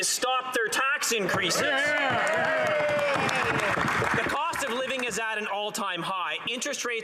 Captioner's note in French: voix de l'interprète